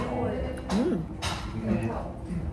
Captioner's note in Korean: 으음